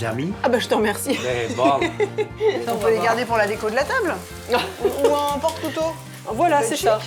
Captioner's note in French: rires